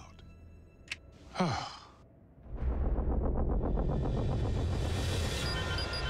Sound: sighs

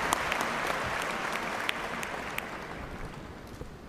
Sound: cheers and applause

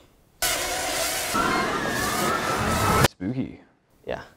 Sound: drones buzz

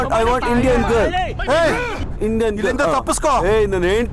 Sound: Malay Language

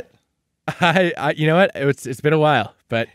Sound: laughing

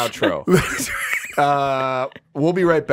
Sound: laughing

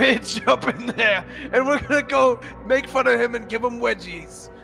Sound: laughing

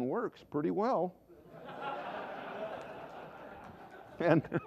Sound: laughter

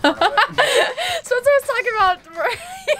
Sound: laughing

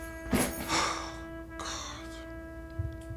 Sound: Nosa Sighs

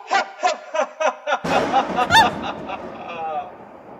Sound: laughing; Thunder strikes. RED screams, startled

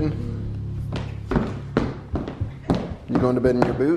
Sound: boots clacking

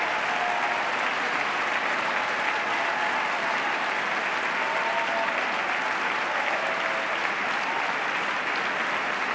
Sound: cheers, applause

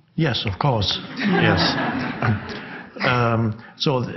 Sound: audience laughs

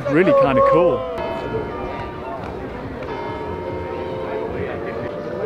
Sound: bell ringing; people chattering

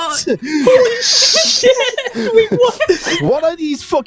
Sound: laughter

